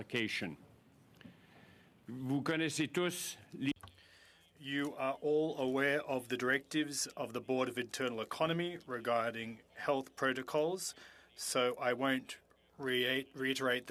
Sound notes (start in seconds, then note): 8.7 speaking French